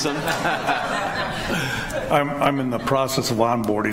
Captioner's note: laughter